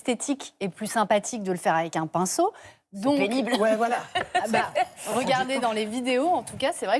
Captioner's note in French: rires